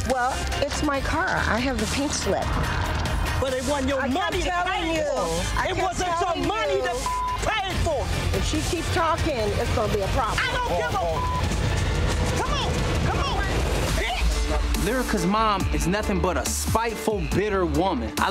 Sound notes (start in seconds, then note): 6.4 beep; 10.4 beep; 11.7 intense music